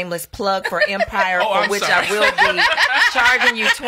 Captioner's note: laughs